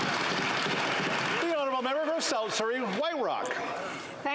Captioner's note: some Applause